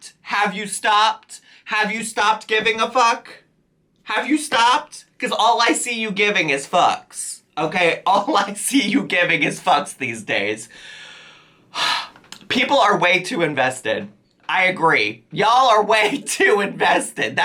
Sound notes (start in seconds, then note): 11.7 sighs